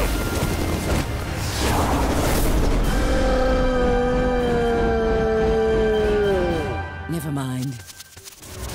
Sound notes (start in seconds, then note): 3.9 screaming